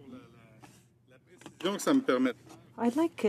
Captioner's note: speaking french